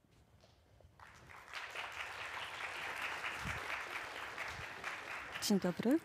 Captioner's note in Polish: oklaski